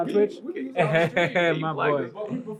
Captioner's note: laughs